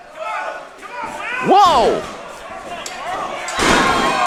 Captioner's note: feet stomping